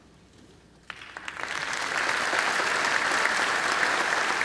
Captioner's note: applause